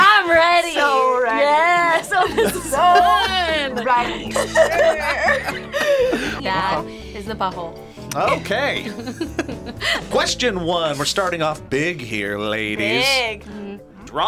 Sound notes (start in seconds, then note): 1.7 laughs; 5.3 both laugh; 8.1 both laugh